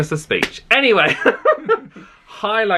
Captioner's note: laughs